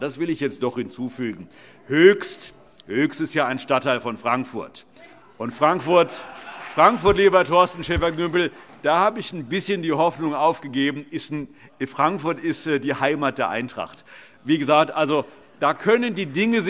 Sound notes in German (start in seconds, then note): 5.8 Heiterkeit und Beifall